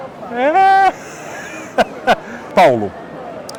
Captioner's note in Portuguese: risos